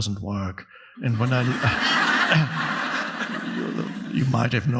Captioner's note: audience laughing